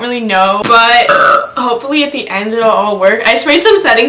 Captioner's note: burps